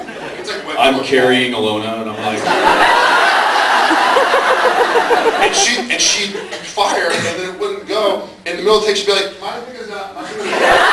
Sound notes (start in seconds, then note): 2.4 laughs